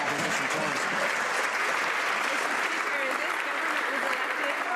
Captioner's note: some Applause